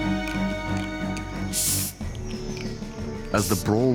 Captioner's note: dramatic music continues; hissing